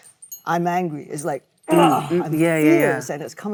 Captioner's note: Michelle grunts